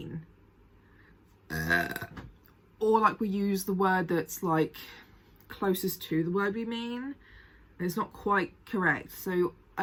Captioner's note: burps